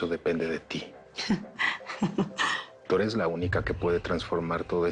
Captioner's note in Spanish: Ella ríe